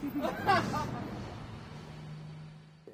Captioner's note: laughs